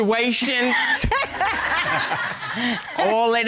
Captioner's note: all laughing